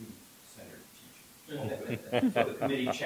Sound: laughter

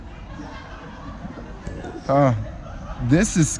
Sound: people laughing

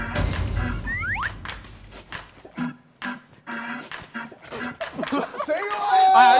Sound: Whish

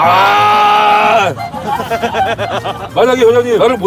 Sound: staff laughing

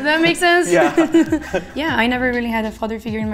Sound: laughing

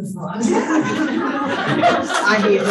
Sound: panelists laughing

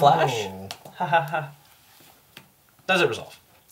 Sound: mocking laugh

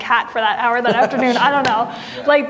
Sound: laughing

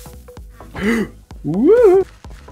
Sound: big gasp

